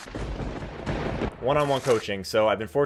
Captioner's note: lightning strike